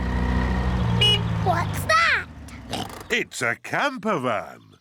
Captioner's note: horn honks; oinks